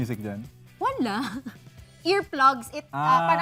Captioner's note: laughs